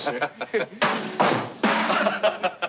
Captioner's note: stool clatters; men laughing